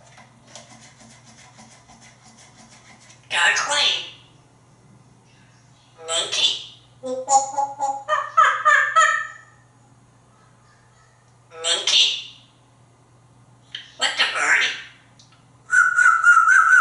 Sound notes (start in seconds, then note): 7.8 monkey sounds; 15.7 whistles